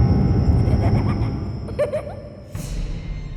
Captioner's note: child laughing